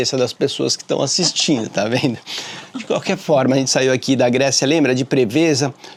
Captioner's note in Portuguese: risadas